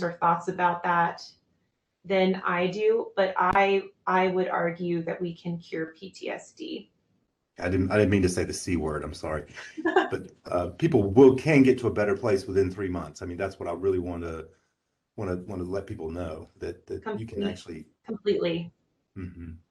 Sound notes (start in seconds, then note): 10.0 chuckles